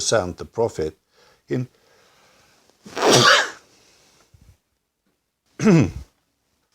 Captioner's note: sneezing